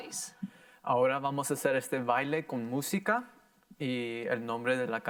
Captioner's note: in foreign language